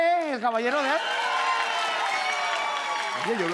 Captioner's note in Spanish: Público ovaciona